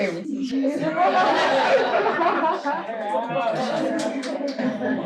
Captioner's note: audience laughs